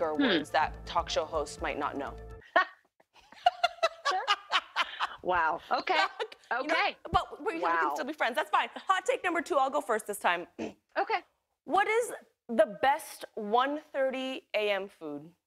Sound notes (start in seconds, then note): 3.1 chuckles; 3.2 laughs